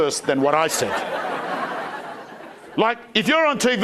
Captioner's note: crowd laughing